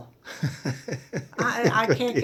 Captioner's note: laughs